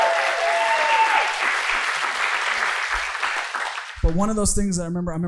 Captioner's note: audience cheering